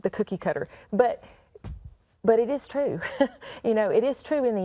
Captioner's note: chuckles